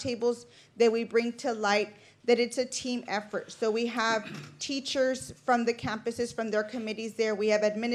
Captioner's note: clears throat